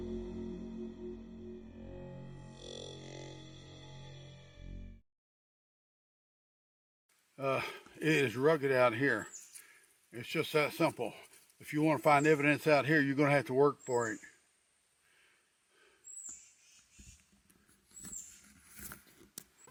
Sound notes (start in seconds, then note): 15.0 breathes heavily; 15.9 birds chirping